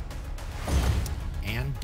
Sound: thump; whoosh

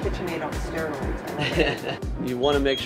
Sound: laughter

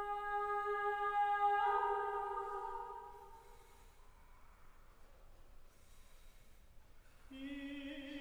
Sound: lower Voices inhale and exhale

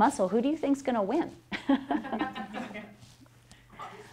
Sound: laughter

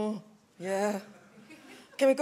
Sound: chuckles

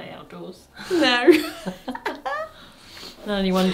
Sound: laughs

